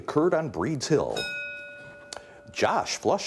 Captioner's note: bell dinging